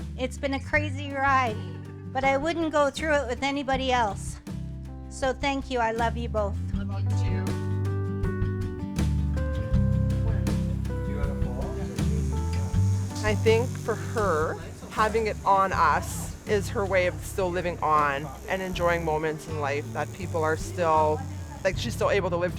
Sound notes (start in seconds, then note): 8.3 upbeat music; 12.5 tattoo needle buzzes